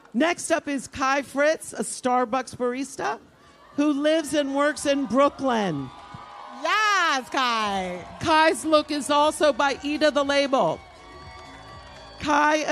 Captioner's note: applause